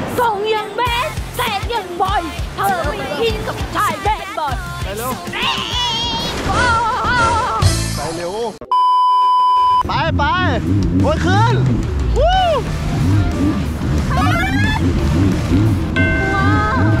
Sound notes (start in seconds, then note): 0.3 sings; 2.6 singing continues; 5.2 yells; 6.4 screams; 13.0 engine rumbling